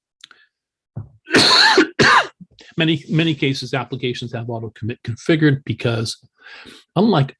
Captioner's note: cough